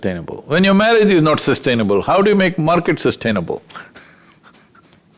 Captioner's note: laughs